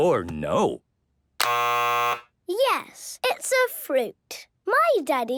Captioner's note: buzzes